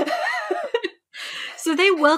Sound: laughing; laughs

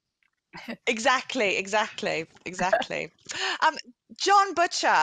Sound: chuckles

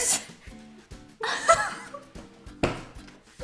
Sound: laughs

